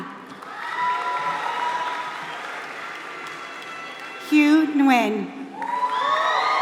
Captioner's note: applause